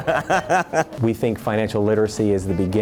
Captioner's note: laughing